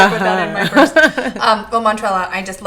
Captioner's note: laughing